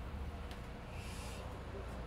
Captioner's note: sounds of a bus